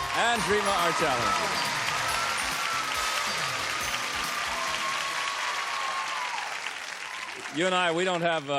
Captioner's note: applause